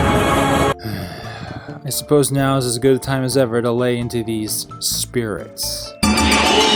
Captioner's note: groan